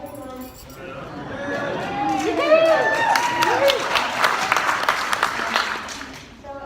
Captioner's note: applause